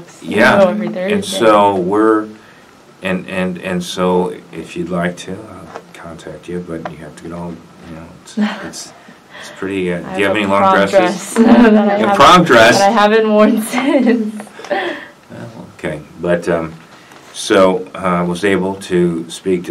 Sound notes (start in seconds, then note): 0.0 laughs; 13.7 chuckles